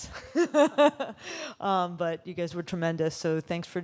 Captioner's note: laughs